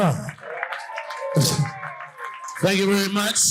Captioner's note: audience cheering and applauding